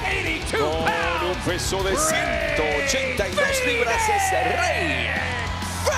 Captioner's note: applause